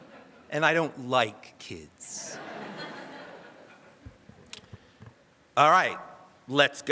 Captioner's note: audience laughs